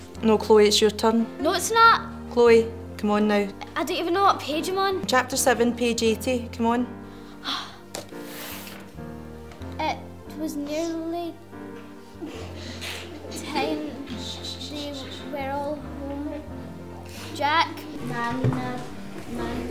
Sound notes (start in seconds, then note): 7.4 sighs; 16.3 stumbling over words, class sniggering louder